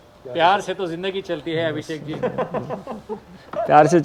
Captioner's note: laughs